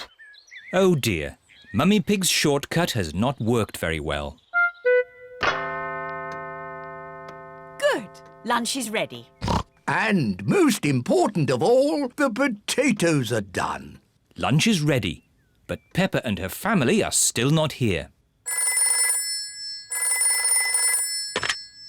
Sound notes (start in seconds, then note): 5.5 clock chimes; 9.4 snorts; 18.4 phone rings